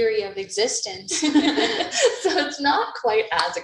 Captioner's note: laughs